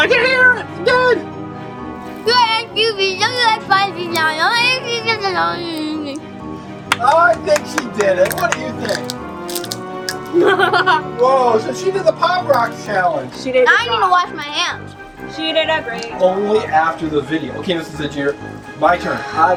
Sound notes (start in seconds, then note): 2.2 mouth full; 6.8 claps